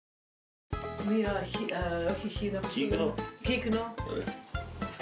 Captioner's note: speaking greek